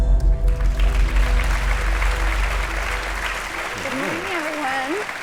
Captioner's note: audience applause